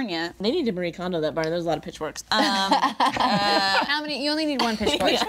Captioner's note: group laughing